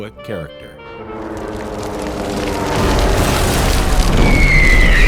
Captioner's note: fire whistles and roars